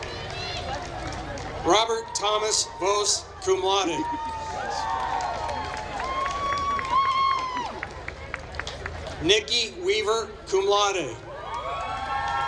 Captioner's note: applause